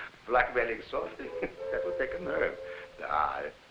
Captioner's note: Jakob chuckling